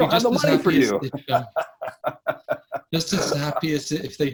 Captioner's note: laughs